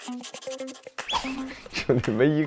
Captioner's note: scratch scratch scratch